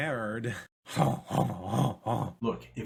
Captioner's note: laughs in French